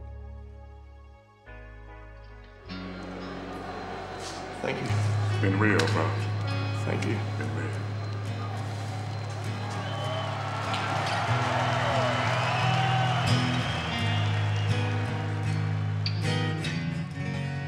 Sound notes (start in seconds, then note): 10.1 applause